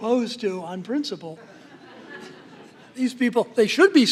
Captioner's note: laughter